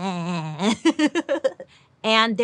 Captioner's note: laughs